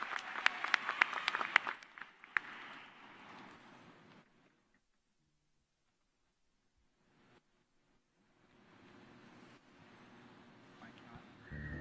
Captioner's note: cheers and applause